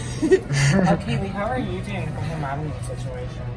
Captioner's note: laughing